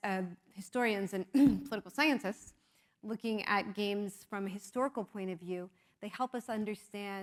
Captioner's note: cough